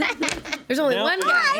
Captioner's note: women laugh